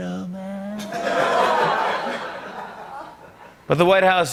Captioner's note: As Trump; laughter